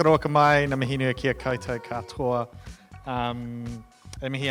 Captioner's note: speaking in Maori